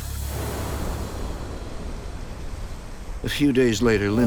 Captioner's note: waves crash